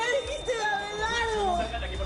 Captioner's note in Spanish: Sonido continuo del monitor